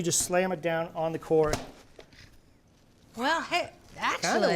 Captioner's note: lettuce thumps